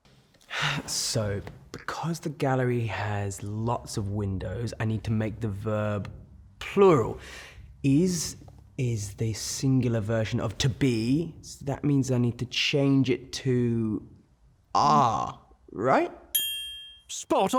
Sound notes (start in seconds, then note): 16.3 ding; 16.6 voiceover